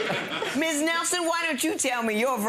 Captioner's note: laughs; audience laughing